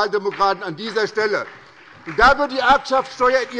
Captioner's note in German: Beifall bei der SPD